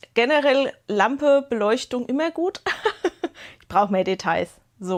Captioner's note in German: Gelächter